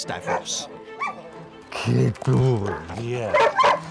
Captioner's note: dogs barking